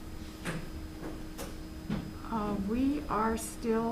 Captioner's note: a door opening